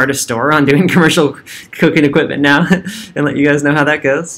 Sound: chuckles

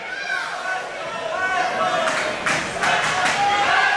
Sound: crowd chanting

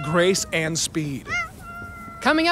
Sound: cat meowing

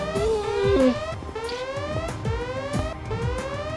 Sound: whining

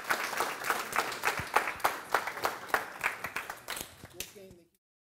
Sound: applause

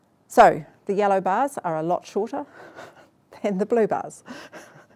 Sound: laughs

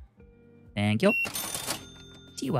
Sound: beeping

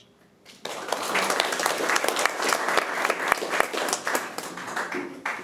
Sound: committee applauding

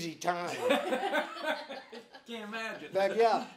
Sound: all laughing

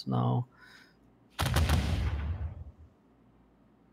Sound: volley of booming sounds

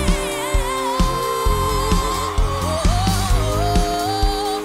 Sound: crowd cheering

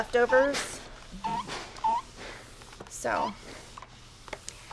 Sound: iron squeaking on fabric

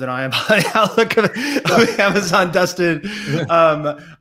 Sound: laughs

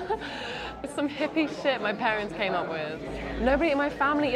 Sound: chuckles

